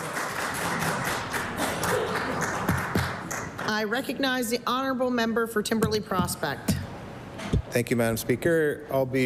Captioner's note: applause